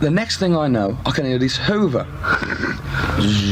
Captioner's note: buzzes